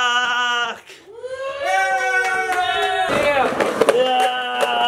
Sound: yelling and cheering

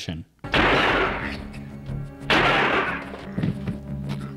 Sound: gun firing

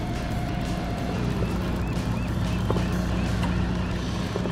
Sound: birds chirping

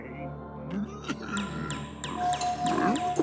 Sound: sighs; beeping; beeps

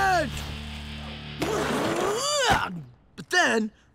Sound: grunting

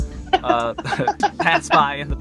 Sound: laughs

